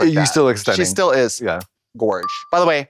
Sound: kiss sound

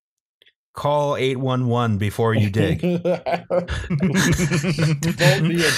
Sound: laughter

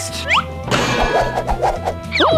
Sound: metal lid slamming down

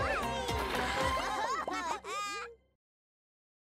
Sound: laughing

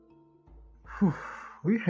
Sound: sigh

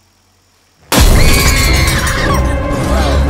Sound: screams

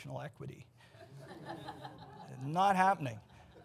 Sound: audience laughs

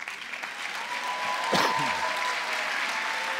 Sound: applause

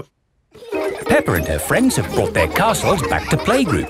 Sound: children laughing

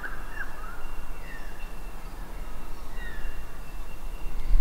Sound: birds chirping; chirping progressing

